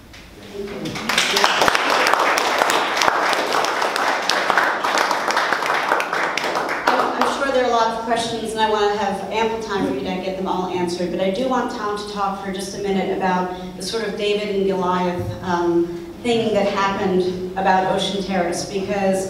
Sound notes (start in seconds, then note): 0.6 audience applauds